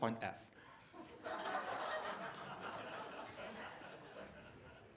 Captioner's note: laughter